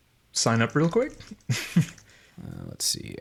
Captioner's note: chuckles